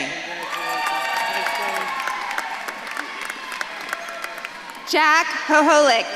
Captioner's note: audience claps and cheers